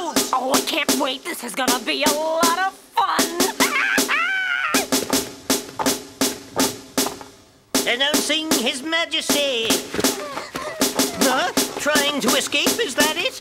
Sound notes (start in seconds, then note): 3.5 witch laughs; 10.0 Triplets breathing heavily